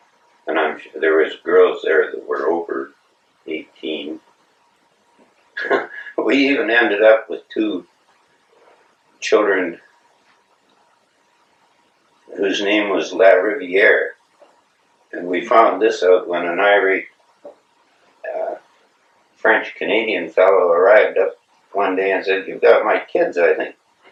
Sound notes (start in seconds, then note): 5.6 laughs